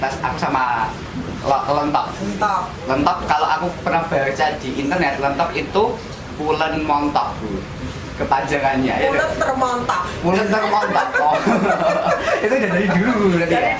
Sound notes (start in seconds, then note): 10.4 laugh